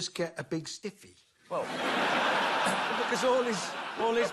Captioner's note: laughter